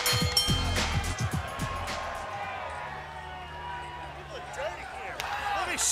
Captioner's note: bell ringing